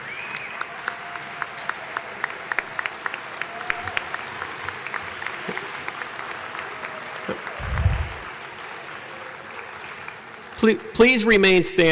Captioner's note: applause